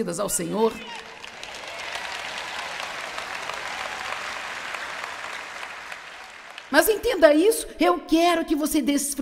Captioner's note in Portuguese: audiência se alegra